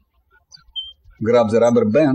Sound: birds chirping

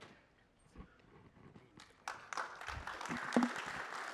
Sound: applause

